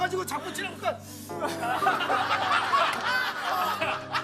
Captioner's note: sob